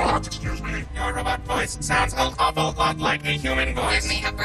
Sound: in robotic voice

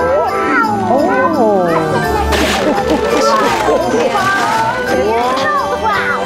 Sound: paper tearing

